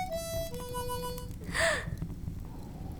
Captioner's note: gale; sighing